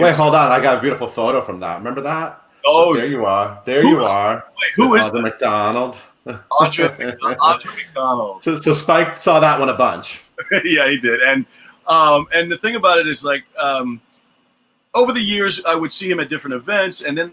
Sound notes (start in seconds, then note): 10.3 laughs